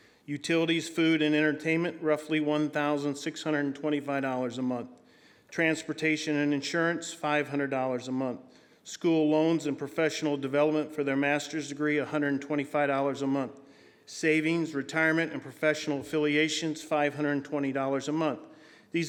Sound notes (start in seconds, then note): none